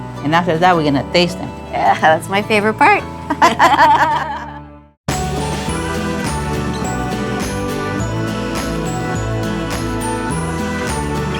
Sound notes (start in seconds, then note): 3.2 laughter; 5.4 happy music